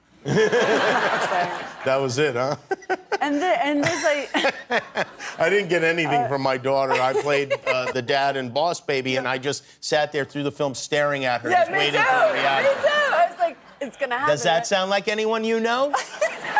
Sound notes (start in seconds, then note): 5.6 laughter